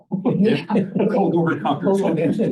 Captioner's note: laughter